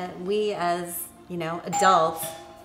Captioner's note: doorbell rings